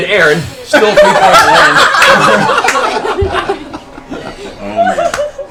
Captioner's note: laughter